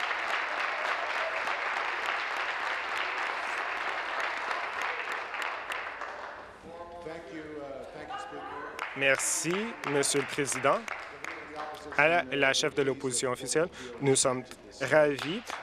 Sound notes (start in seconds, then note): 0.0 applause; 0.0 cheering; 5.0 continued applause